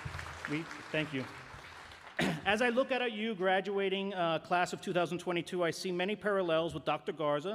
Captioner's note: applause